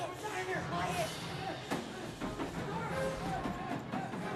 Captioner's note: pounding on door